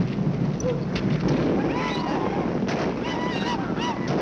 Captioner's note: men whooping, firing guns